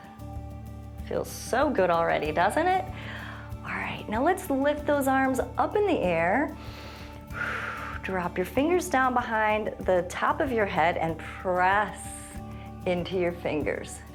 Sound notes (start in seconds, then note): 6.5 inhales and exhales